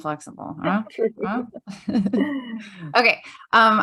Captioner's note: chuckles